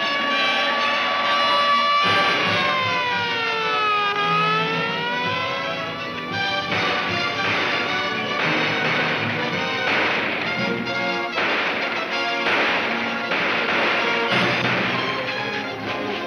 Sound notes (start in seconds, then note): 0.4 tires screech; 6.5 gunshots cracking